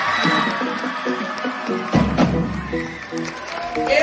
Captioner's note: audience cheering